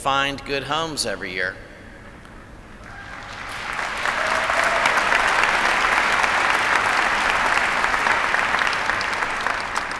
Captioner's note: applause